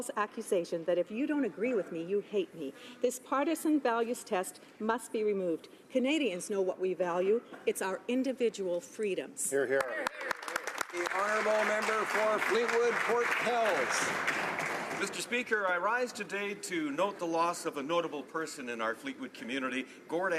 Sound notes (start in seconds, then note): 14.5 some Applause